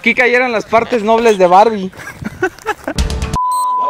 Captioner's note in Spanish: Risas